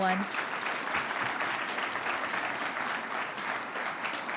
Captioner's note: audience applauding